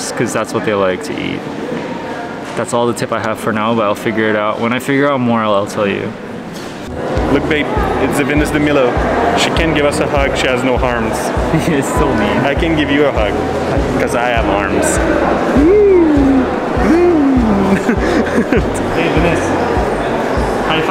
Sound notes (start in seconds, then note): 15.5 cooing; 16.7 laughs